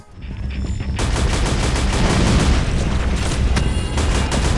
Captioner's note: gunfire